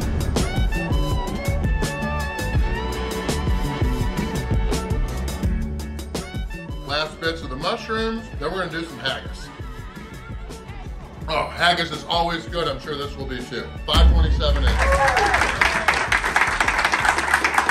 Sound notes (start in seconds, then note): 14.0 crowd cheering